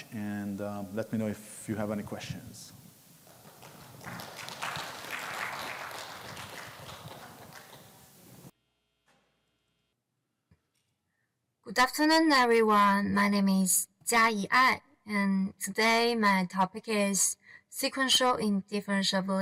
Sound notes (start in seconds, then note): 3.2 audience applauds